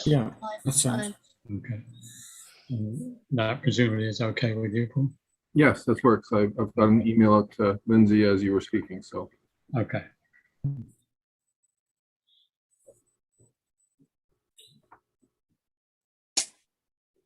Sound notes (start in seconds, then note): none